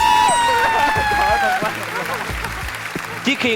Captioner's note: yelling